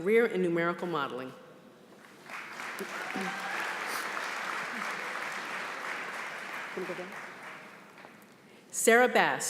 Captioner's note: applause